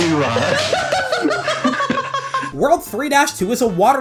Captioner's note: laughter